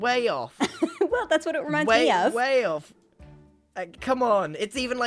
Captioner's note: laughs